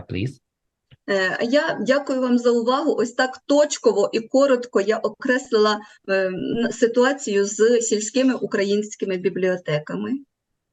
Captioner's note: foreign Language